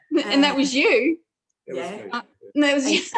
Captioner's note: laughter